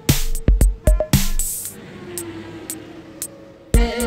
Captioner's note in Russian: шум транспорта